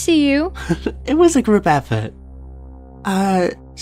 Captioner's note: chuckles